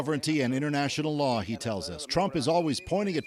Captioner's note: speaking alternate language